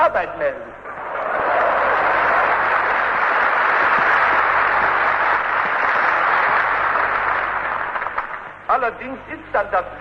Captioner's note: applause